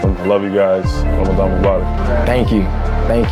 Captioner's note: foreign language